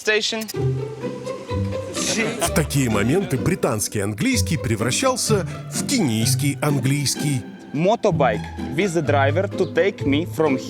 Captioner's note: speaking in English